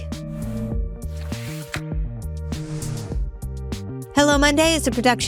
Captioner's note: dramatic whooshing